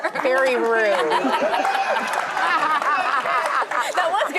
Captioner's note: audience laughs